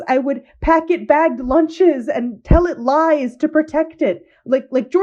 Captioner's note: none